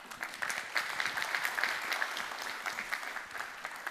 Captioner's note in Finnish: Applause